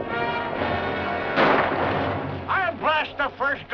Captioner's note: gunshot